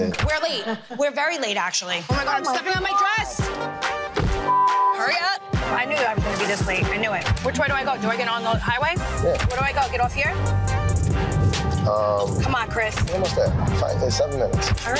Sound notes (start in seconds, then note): 4.0 car door slams; 4.4 beep